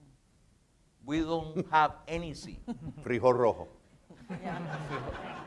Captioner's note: speaking in foreign language; audience laughs